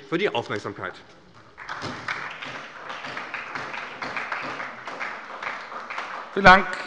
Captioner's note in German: Beifall bei der SPD